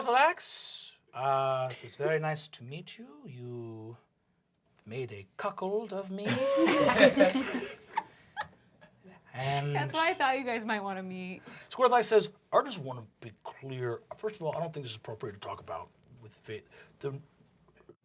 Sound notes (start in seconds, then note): 6.2 laughter